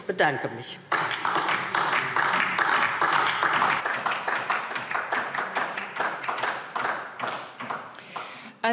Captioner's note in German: Beifall DIE LINKE